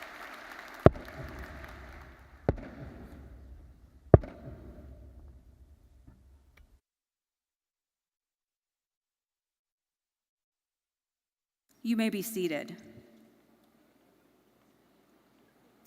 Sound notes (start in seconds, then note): 0.9 hammering university mace repeatedly